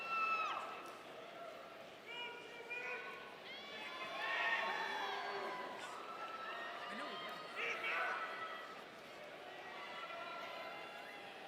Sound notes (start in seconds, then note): 2.5 audience members shouting